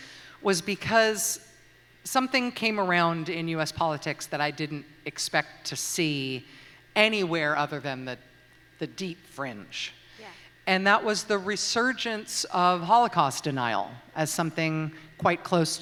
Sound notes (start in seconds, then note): none